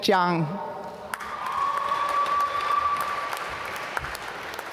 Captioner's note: applause